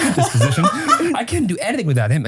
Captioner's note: laughs